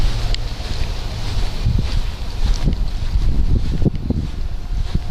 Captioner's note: foot steps rustling